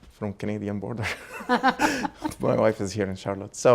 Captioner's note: Dr. Gingrich and Bullis laugh